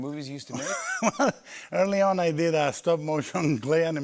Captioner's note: laughs